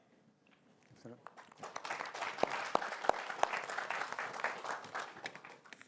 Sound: applause

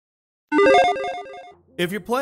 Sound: logo beeping

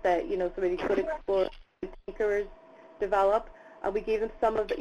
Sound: audio interference

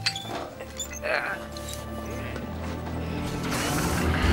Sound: grunting

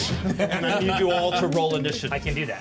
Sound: laughs

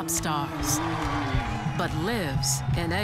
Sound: audience cheering

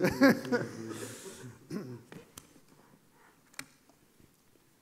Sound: laughter drowns out speaker

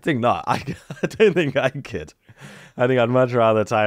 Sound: laughs

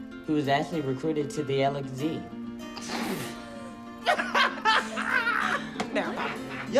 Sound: laughter

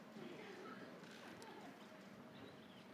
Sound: laughs

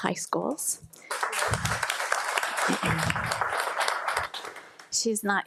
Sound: audience applauding

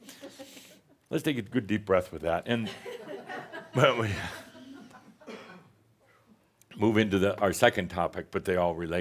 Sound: more chuckles

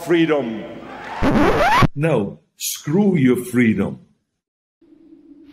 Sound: record scratch

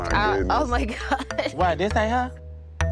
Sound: laughing

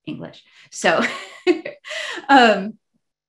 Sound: laughs

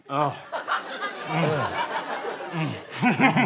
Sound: gagging

